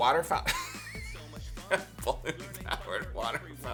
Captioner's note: laughter